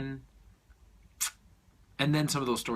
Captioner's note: smacks lips